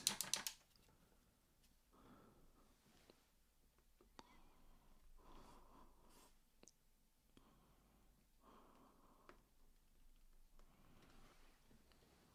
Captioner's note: silence